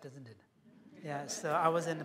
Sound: laughter

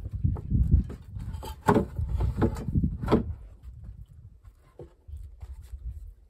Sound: sound of wooden boards hitting the deck

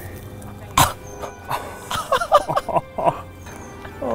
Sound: laughing

